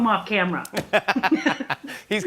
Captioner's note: both laugh